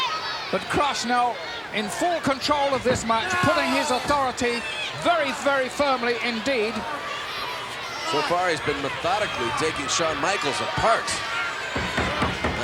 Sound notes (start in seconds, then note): none